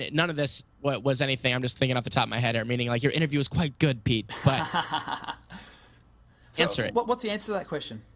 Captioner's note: laughs